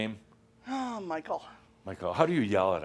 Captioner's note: sighs